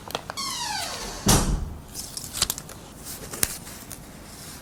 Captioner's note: sound of a door closing